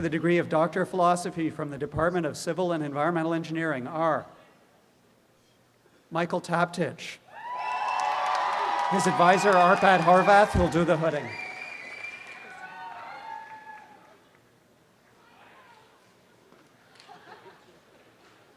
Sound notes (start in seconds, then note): 7.4 applause and cheering; 11.3 audience applause